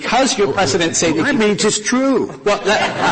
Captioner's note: laughter